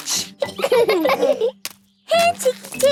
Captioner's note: laughing